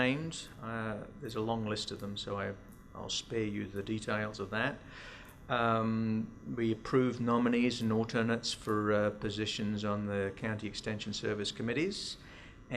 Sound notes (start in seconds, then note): none